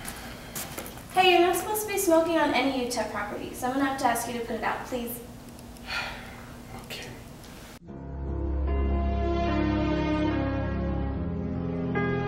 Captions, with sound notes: Hey you're not supposed to be smoking on any UTEP property. So I'm going to have to ask you to put it out please? (Sigh) Okay. (Sad music plays)